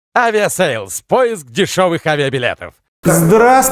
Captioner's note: male announcer voice